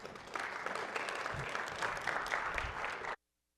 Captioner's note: applause